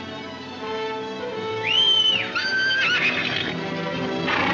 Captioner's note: Jim whistling; horse whinnying